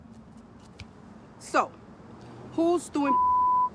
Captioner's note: beep